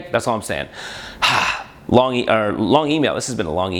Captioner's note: exhales